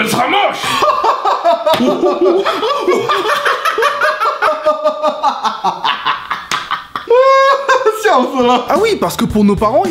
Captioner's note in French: rires interminables